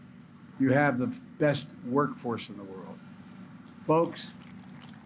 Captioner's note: applause